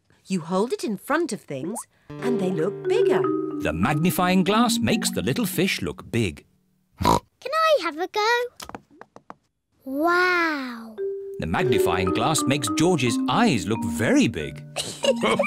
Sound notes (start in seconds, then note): 7.0 oinks; 14.7 both laugh